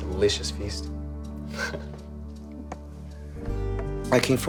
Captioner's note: chuckles